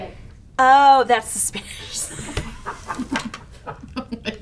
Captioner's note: laughing